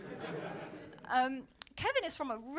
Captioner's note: audience laughing